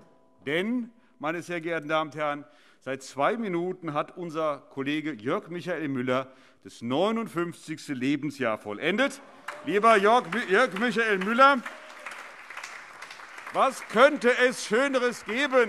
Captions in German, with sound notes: - Meine sehr geehrten Damen und Herren, seit zwei Minuten hat unser Kollege Jörg Michael Müller das 59. Lebensjahr vollendet. (Beifall) Lieber Jörg Michael Müller, was könnte es Schöneres geben,